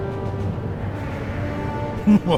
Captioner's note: Arvid laughing